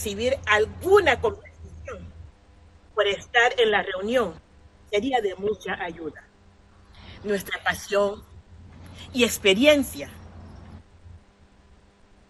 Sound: speaking spanish

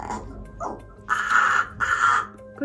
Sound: Leo caws

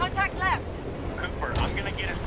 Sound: radio

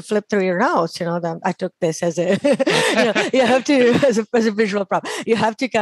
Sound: laughs

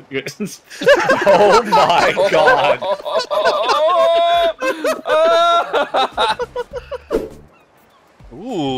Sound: hysterical group laughter

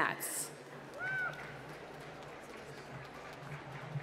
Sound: applause

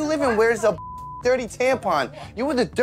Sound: beep

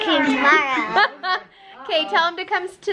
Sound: laughs

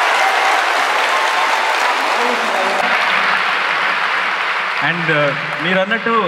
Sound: cheers/Applause

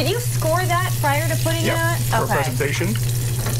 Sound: fan whirring

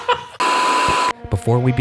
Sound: laughing; TV static buzzing

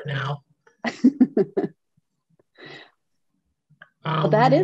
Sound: laughing

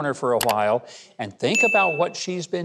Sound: mouse clicks; bell dings

